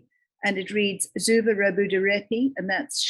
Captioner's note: speaking in foreign language